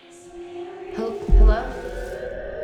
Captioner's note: eerie music; voices whispering